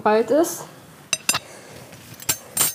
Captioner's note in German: Besteck klirrt